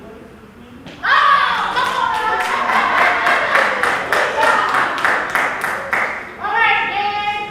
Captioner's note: applause